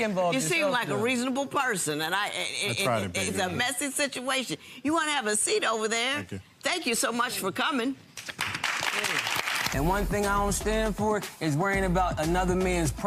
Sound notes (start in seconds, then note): 8.2 crowd applauding; 9.7 dramatic music